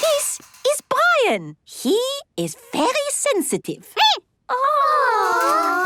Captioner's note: squeaking